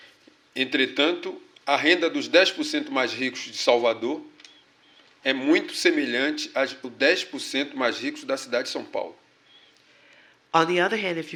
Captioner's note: speaking portuguese